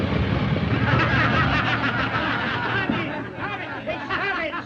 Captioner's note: all laughing